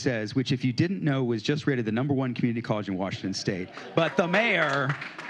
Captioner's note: applause